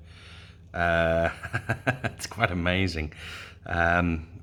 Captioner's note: laughs